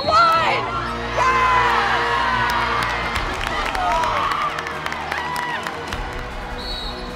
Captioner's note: cheering